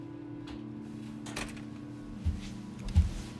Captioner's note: door closes; gentle music